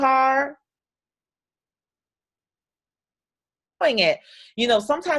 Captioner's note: audio drops out